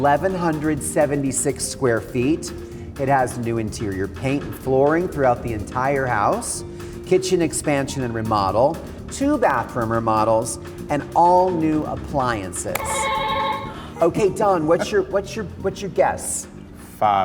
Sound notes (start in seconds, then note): 12.8 buzzer beeping